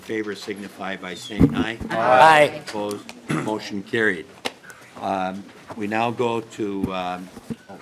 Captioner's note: chorus of ayes